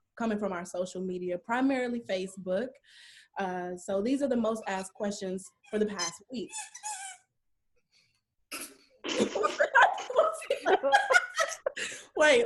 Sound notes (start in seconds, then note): 7.0 squeaking; 9.1 laughs